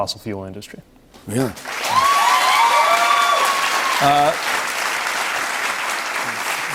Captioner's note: cheers and applause